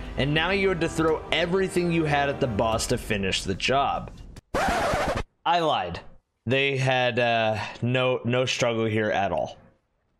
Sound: scratch

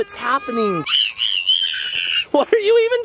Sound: screaming

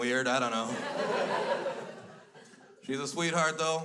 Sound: crowd laughs

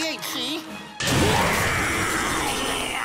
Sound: roaring

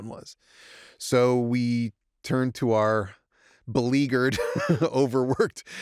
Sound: chuckles

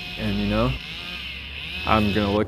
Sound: chainsaw engine running

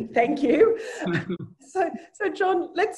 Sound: laughs

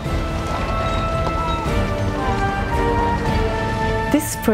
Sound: seaside chatter and industrial noise

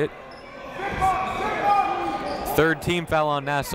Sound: crowd talking; coaches yelling

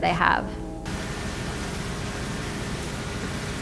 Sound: static

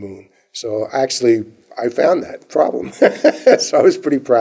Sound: laughter

